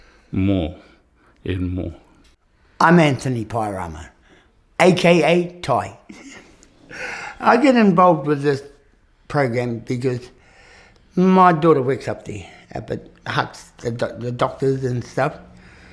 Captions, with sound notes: more and more. - I'm Anthony Pairama, aka Tai. (CHUCKLES) I get involved with this programme because my daughter works up there — at the Hutt, the doctors and stuff,